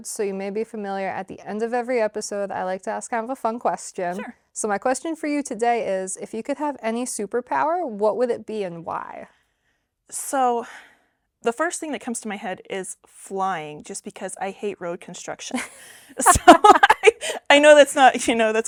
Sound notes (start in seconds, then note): 16.2 both laugh